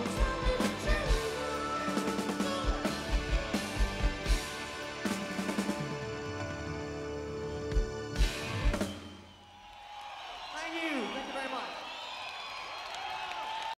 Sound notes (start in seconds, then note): 5.3 drum plays; 7.2 crowd cheers; 12.0 crowd cheering and clapping